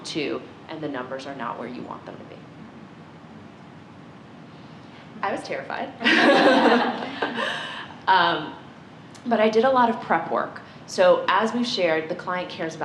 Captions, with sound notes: and the numbers are not where you want them to be. I was terrified. (laughter) But I did a lot of prep work. So as we've shared, the client cares about the numbers.